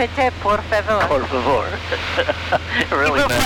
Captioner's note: laughing